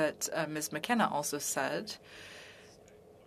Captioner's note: speaking French